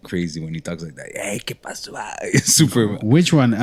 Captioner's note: speaking spanish